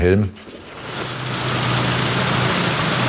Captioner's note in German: Maschinenrattern